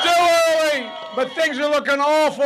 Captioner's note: cheering and applause